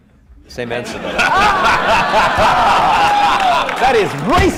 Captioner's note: laughter